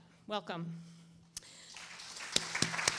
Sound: applause

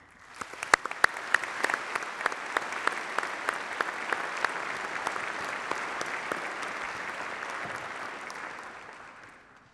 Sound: applause

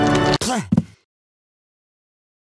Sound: spits

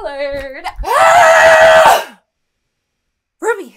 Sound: screams

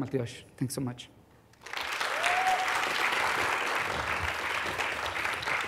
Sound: applause

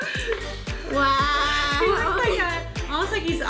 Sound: laughs

